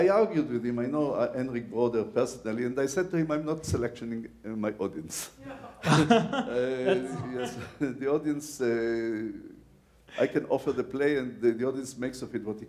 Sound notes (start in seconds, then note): 5.4 laughs